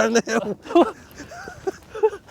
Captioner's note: both laughing